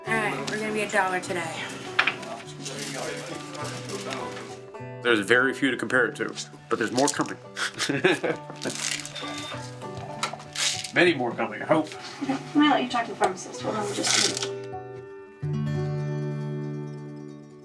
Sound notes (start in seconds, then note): 0.0 calm music; 1.7 calm music; 10.0 laughs; 15.0 calm music